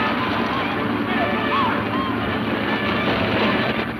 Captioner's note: hooves pounding